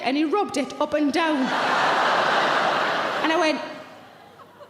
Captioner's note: audience laughs